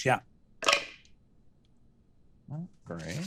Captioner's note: dice clatter